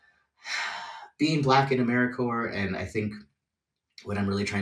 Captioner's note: sighs